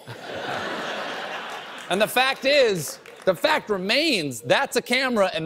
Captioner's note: laughter